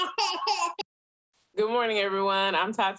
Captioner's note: child laughs